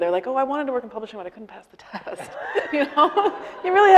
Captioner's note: laughing